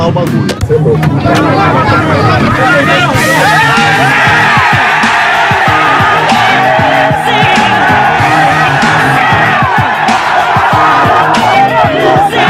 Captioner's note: multidão ovacionando fred